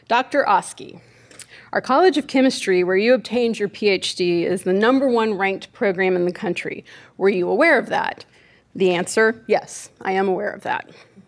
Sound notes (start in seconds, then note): none